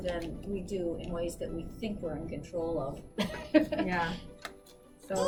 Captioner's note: laughs